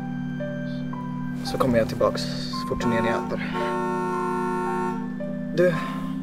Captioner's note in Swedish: turnébuss som tutar